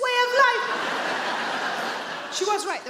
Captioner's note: audience laughing